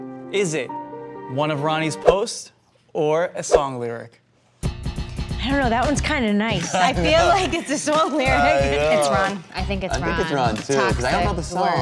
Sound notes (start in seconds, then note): 5.0 upbeat music; 6.4 laughs